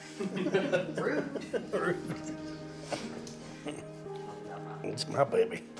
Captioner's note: laughing; laughs